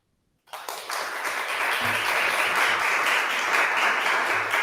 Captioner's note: audience applauding